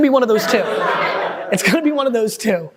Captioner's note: group laughing